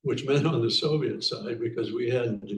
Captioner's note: chuckling